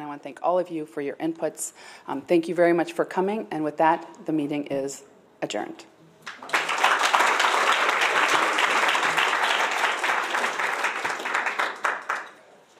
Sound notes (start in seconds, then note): 11.0 applause